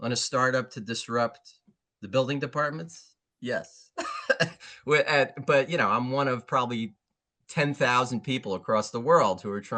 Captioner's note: laughs